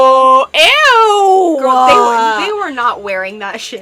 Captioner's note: chorus of EWWWWWWs